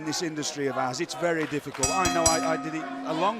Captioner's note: bell ringing